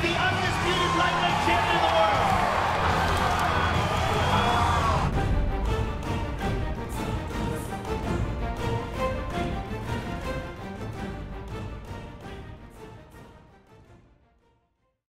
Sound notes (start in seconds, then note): 2.9 crowd cheers; 5.8 upbeat music